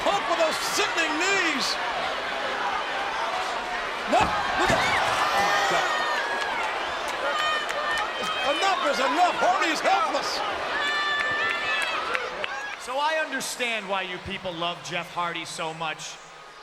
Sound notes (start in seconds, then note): 6.5 crowd screams